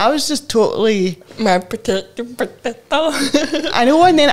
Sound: laughs

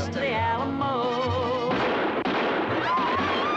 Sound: gunshots; women screaming

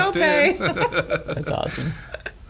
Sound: laughter

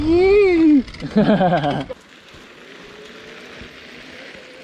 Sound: laughs

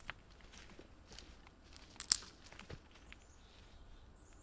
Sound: twig snaps

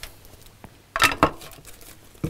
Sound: rattle

